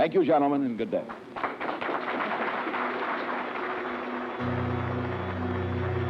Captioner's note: applause